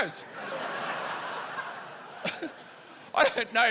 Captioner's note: laughter